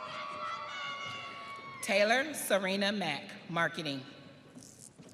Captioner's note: audience cheering